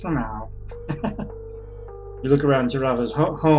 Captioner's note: chuckles